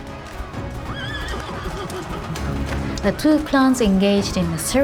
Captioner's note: tense expectant music; horses whinnying